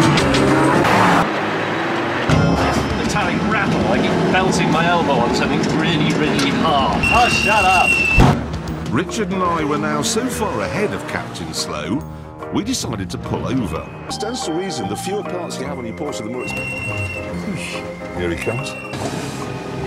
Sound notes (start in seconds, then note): 7.0 high-pitched whine; 16.7 car whistling